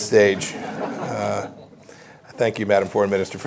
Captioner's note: laughter